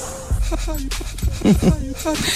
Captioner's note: laughter